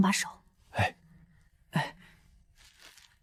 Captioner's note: sigh